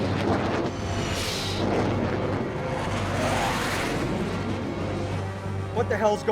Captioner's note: aircraft whirring; missile whooshes